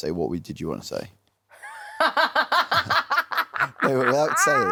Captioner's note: laughs